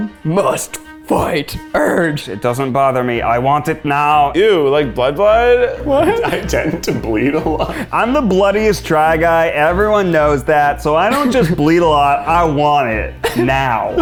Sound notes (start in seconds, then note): 6.4 laughing